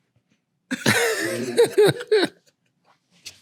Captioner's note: laughing